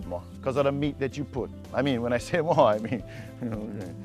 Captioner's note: chuckling